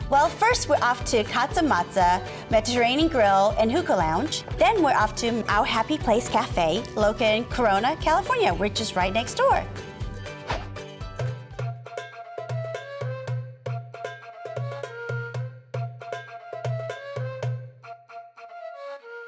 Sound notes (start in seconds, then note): 10.4 whoosh